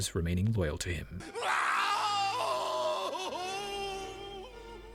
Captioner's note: external screaming